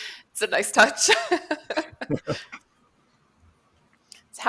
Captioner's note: laughter